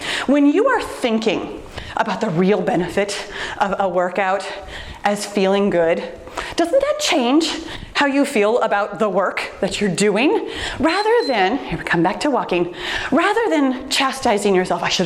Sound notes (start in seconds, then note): 10.8 timer beeps